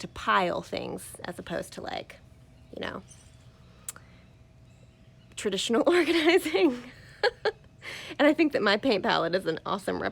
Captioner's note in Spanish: Risas